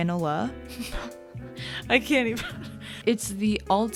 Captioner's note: laughs